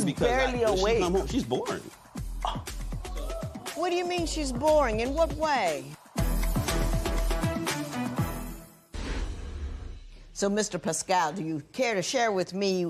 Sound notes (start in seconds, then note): 2.4 gasps